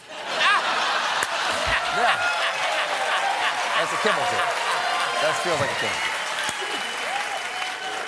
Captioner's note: laughter; cheers and applause